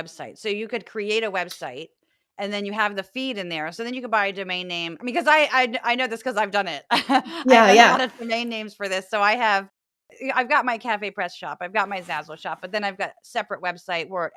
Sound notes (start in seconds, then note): 7.2 laugh